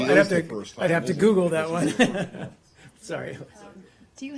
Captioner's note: laughter